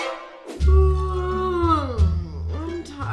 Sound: suspense music; yawn

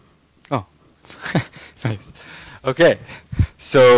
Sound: laughing

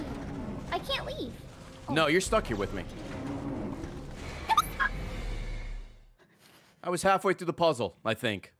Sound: screech

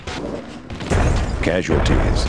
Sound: explosions

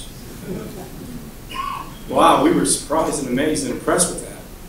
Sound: laugh

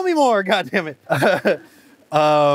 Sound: laughs

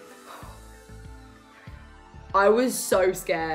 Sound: sighs

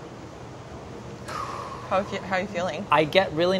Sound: exhales

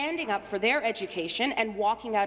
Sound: none

